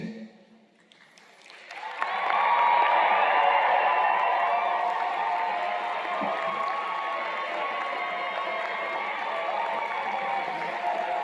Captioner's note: cheers and Applause